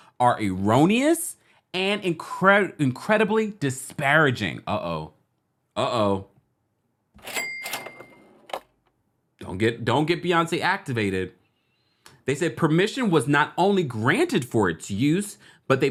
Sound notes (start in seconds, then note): 7.2 cash register ringing